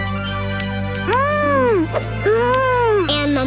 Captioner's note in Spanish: murmura